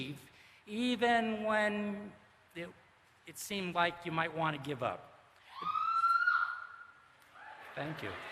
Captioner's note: cheering